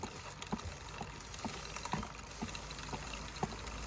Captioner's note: spray hissing